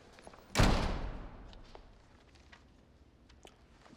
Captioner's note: door opening; thud echoes